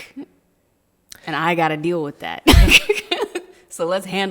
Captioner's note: laughing